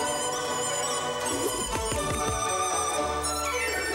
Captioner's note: air swooshes